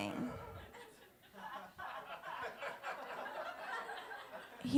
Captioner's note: soft laughter